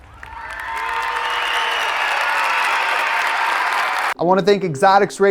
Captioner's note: crowd cheering